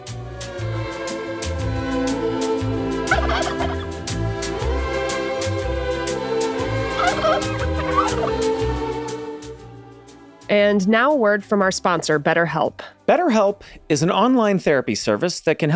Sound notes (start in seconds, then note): 0.2 bright music; 7.0 bird warbles